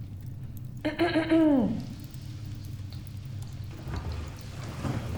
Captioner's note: Ms. Hemlock clearing throat